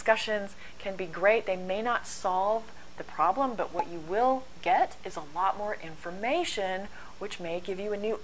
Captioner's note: pop